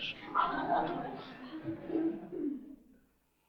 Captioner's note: laughter